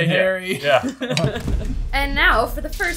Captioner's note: laughing